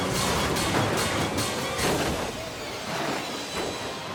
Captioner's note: tires screech; tense music; vehicle slams